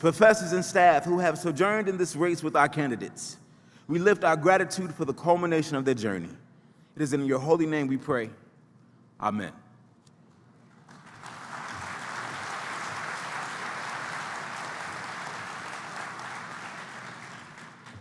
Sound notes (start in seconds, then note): 10.7 applause